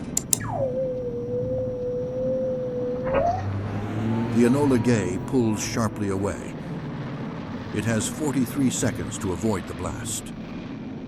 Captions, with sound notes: [button clicks, shrill tone] [bomb release, engine revs] The Enola Gay pulls sharply away. It has 43 seconds to avoid the blast.